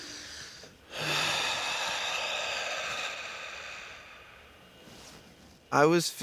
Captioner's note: sighs